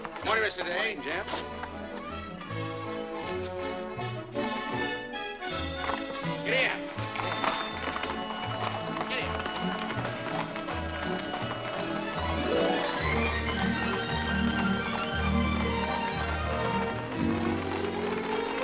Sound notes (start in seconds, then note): 7.8 hooves trotting